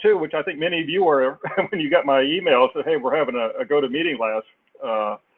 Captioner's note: laugh